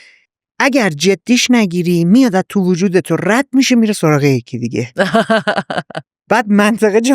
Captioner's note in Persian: خنده